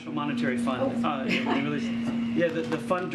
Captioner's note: laughs